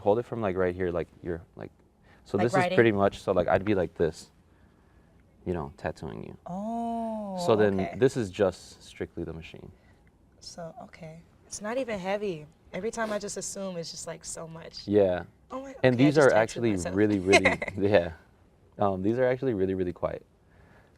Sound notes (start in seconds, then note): 16.9 laughs